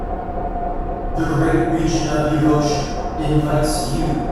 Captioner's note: male Headphones Voice